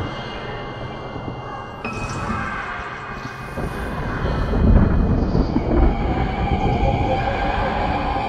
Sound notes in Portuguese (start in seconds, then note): 1.2 Trovões